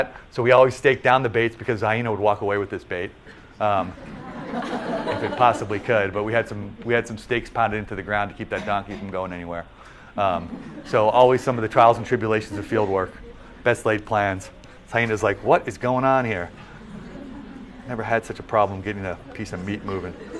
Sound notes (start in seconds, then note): 3.8 laughter; 19.1 laughter